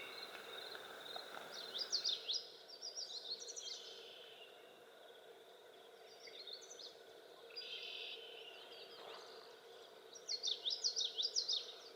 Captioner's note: birds chirping and other nature sounds